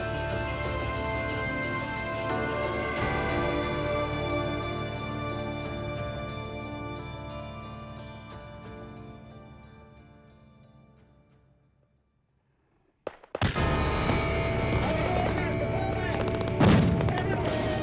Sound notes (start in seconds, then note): 13.1 gunshots; 14.8 shouting